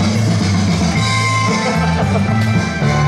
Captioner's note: the laughter of the satisfied director